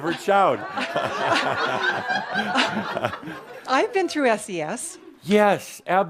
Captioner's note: more laughter